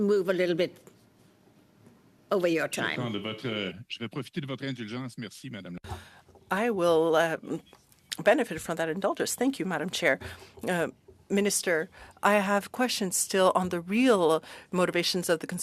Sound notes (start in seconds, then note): 8.8 speaking French